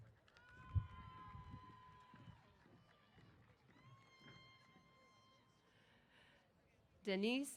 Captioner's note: applause & Cheers